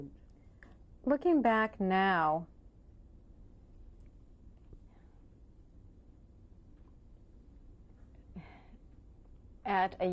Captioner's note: pauses for 6 seconds